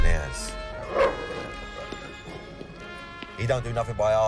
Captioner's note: dog barks